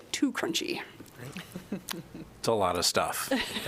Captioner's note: laughter